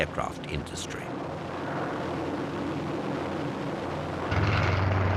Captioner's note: plane roaring